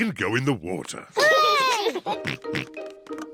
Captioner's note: peppa and george cheer